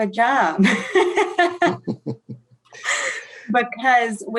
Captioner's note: laughing